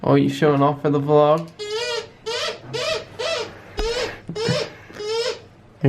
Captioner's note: more squeaking